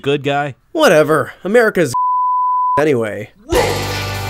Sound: beeps

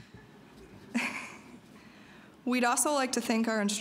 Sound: chuckling

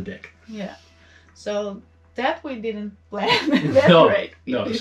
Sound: laughs

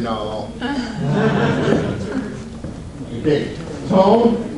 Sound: audience laughs

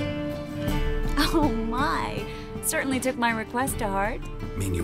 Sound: chuckle

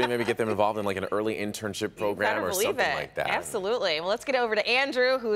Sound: laughter

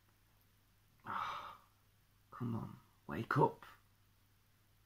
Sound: sigh

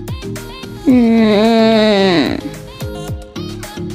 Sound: light music; groans; light music

